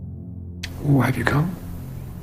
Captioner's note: voiceover